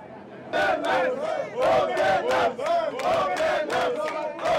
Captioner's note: chanting